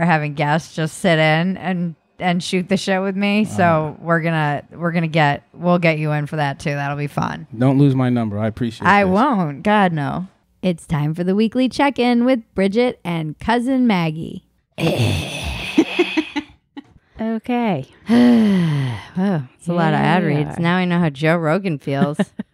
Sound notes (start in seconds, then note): 14.8 throat rasp; 15.2 laughing